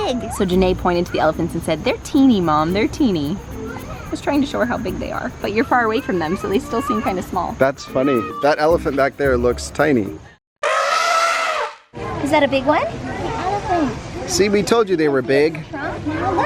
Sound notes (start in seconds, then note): 10.6 elephant trumpeting